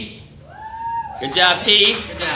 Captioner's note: light cheers